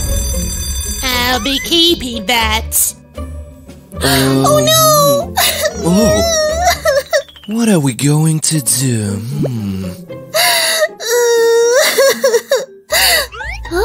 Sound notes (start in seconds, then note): 5.4 starts crying; 11.0 crying